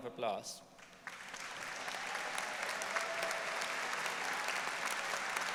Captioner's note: audience applauding